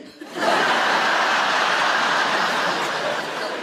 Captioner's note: audience laughs